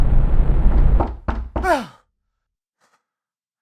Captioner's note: door knocking; Joe gasping